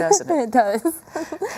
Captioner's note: laughing